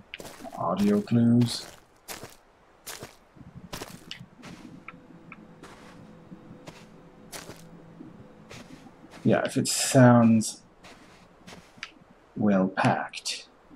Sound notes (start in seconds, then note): 4.5 squelching stops